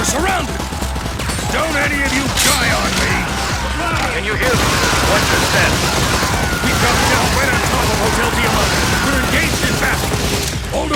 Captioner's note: game audio